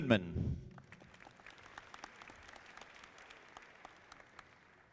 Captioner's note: audience clapping